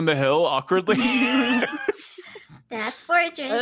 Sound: players laughing

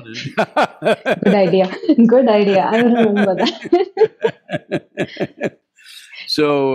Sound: laughter; both laugh

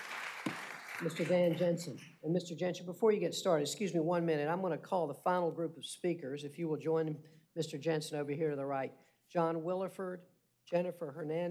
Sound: applause

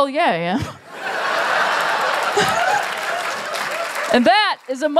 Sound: laughter

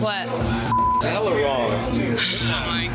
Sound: beep

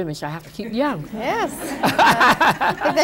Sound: laughter

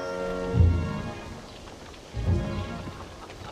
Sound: people murmuring

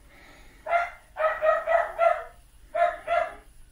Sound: dogs barking

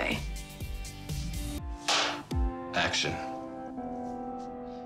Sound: clap

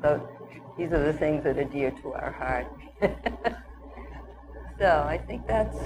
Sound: chuckles

